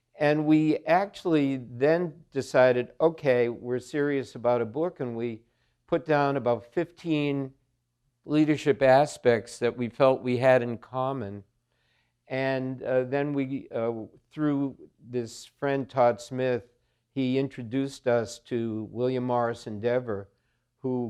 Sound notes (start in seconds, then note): none